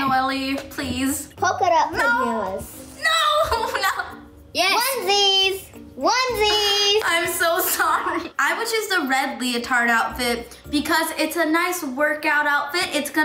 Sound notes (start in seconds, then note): 3.2 laughs